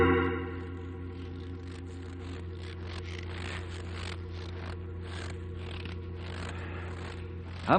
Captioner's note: snoring